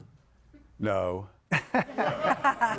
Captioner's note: audience laughing